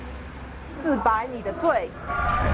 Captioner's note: Mandarin language